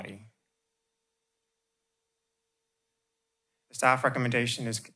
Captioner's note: pause